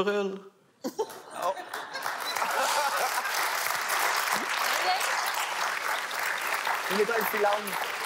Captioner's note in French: rires et applaudissements